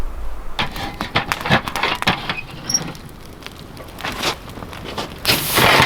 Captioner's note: metal rattling and scraping